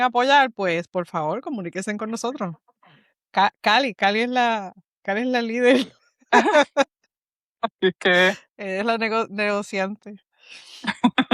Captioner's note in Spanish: risas